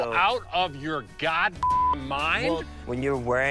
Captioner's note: beep